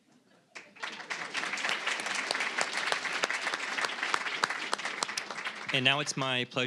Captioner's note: applause